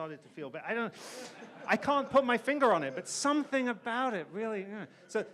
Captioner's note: audience laughs